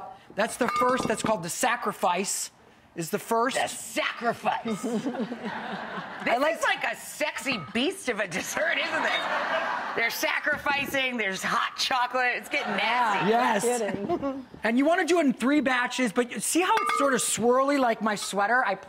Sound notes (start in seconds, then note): 4.7 audience laughing